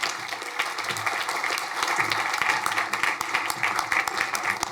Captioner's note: crowd applauding